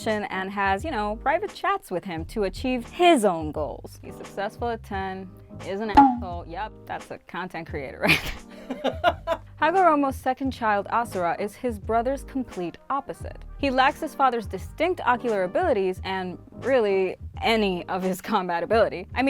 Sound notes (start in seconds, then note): 5.9 drum thump; 8.6 laughs